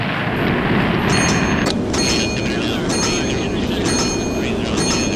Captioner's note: bell dinging